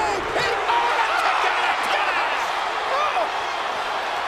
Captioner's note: crowd cheering drowns out speaking; crowd cheering